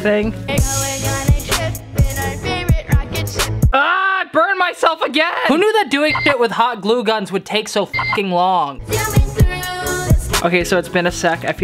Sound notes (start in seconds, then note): 0.4 hip hop beat; 7.9 beep; 8.8 hip hop beat